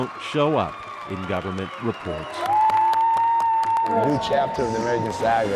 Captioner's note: cheers and applause